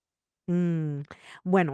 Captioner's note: spanish language